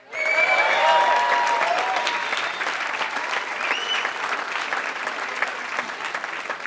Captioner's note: applause